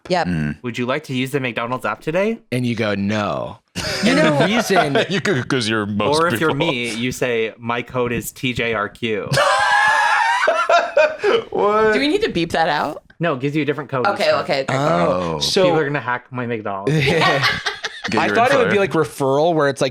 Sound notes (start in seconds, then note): 9.3 laughs